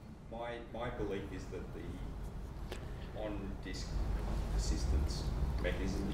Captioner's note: voiceover